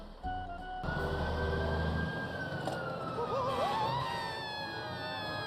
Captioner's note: gentle music; siren blares; Cuddles screams